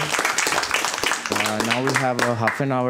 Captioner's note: applause